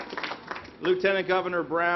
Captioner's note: applause